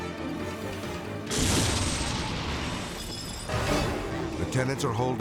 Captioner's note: flames whooshing